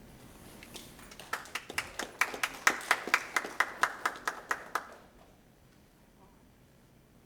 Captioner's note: applause